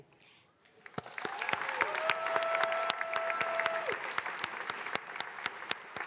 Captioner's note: attendees cheering and applauding